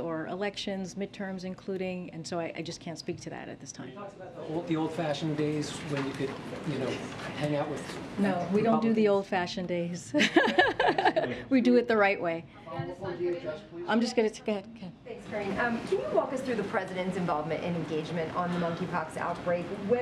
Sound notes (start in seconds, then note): 10.1 laughs